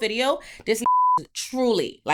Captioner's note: beep